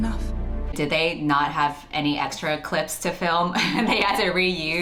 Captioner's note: laughs